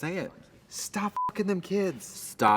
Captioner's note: beep